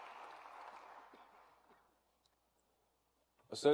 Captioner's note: applause